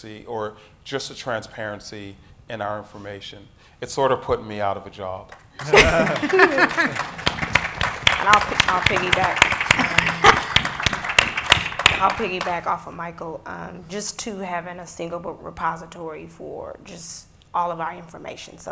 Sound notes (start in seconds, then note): 5.5 audience applauding; 9.7 laughs